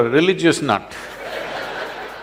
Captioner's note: laughter